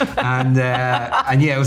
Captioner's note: Margot laughing